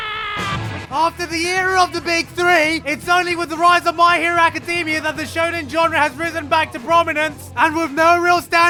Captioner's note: screaming; Asta screaming more